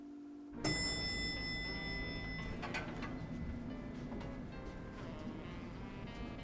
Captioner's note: elevator Dinging